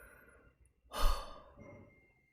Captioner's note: exhales